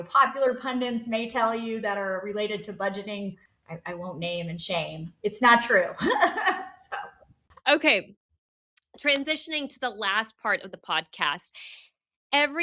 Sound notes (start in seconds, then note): 6.0 laughs